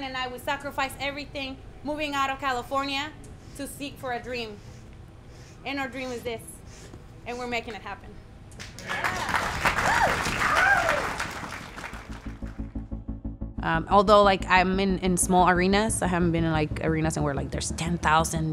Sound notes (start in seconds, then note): 8.6 applause